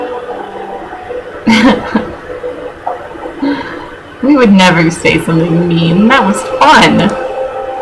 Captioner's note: laughs